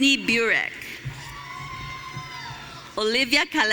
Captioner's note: audience cheering